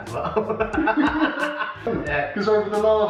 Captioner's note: laughter